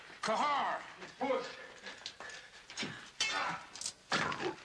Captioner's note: Qahhar grunting